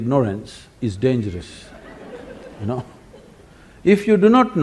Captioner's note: laughter